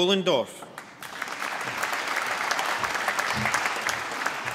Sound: applause

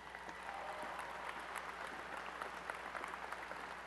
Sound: applause

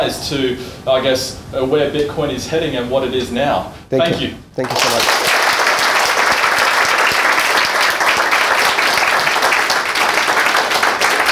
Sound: applause

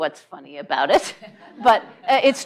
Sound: laughter

